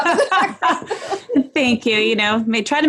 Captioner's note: laughing loudly